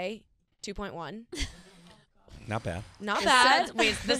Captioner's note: laughing